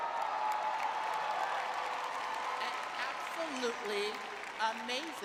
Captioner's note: cheering